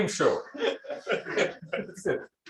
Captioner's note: laughter